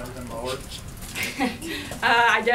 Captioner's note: laughs